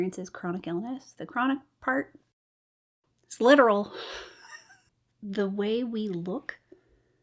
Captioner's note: laughs